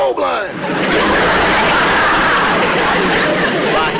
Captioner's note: audience Laughing